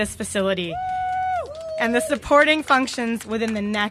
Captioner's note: cheers and applause